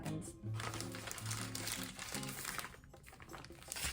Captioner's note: bag rustling